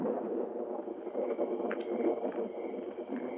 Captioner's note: crickets chirping